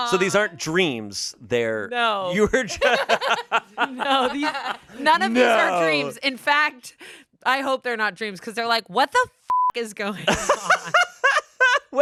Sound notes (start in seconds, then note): 2.6 everyone laughs; 9.4 beep; 10.3 laughs